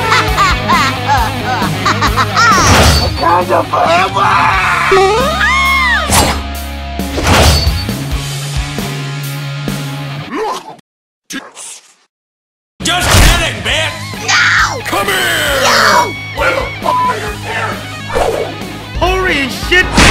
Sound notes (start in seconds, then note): 0.0 retarded laugh; 4.2 screaming like a bitch; 15.4 crying like a bitch